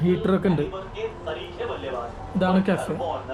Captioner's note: sounds on TV